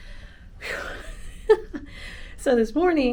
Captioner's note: giggles; takes deep breath